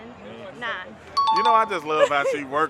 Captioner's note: chime dings